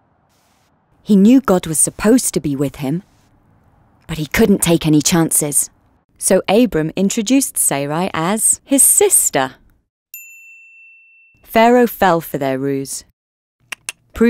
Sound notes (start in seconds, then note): 10.1 bell dinging; 13.7 clicks tongue